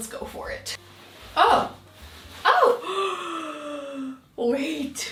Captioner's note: breathes deeply